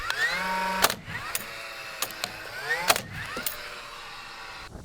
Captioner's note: nail gun popping